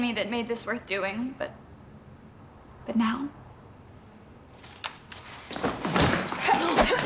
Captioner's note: fists thudding; Riley grunting